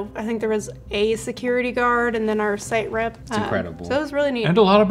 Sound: none

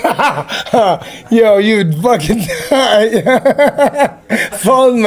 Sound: laughs; laughs

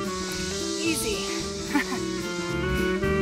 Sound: fake laugh

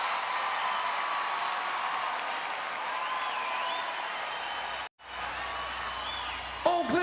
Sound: applause

